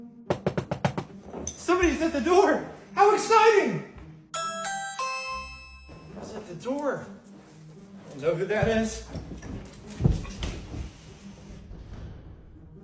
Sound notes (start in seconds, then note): 0.2 knocking; 4.3 doorbell rings